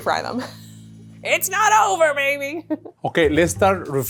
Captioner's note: chuckles